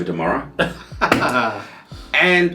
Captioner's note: laughing